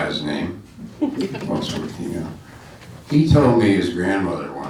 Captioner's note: laughing